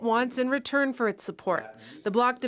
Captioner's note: speaking French